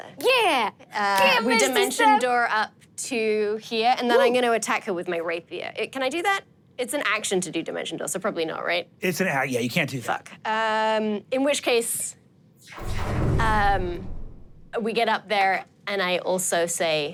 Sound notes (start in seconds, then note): 12.6 whoosh